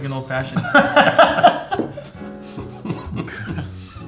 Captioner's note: laughs